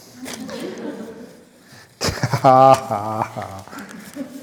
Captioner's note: laughs